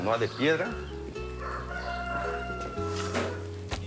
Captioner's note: rooster crows